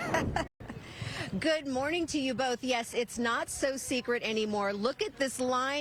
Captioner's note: laughter